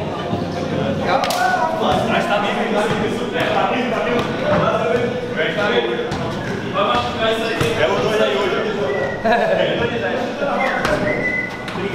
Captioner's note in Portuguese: atletas conversando ao fundo